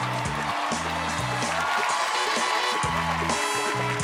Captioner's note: cheers and applause